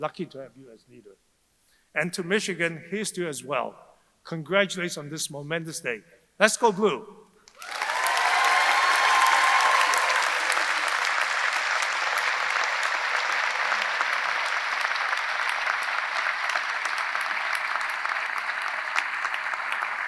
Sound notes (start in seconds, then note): 7.8 audience applauding; 7.8 audience cheering